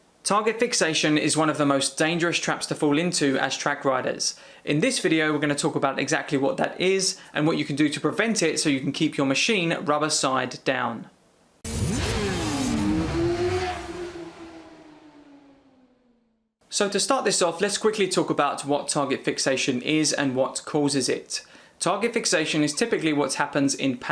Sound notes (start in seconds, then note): 11.6 motorcycles revving